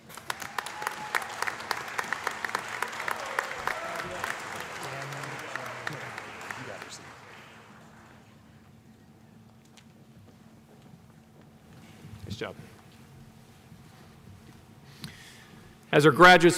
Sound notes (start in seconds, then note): 4.2 applause